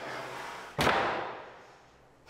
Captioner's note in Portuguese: som de porta fechando